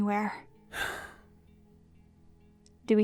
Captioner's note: sighs